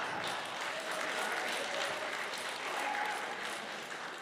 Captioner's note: applause